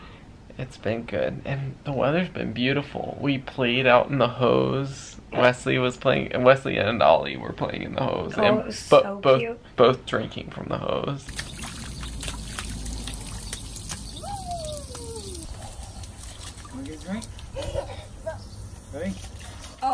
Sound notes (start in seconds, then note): 11.2 water splashing; 17.5 giggling